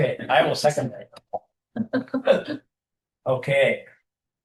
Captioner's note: laughter